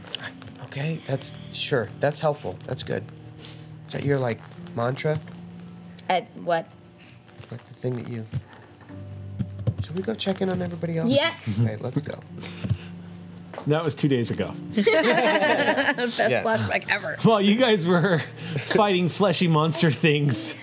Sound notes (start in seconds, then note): 12.8 slow electronic music; 14.7 group laughs